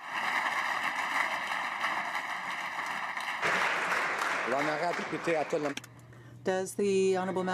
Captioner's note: applause